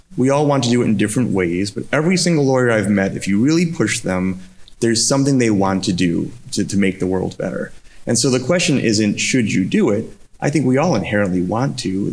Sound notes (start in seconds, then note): none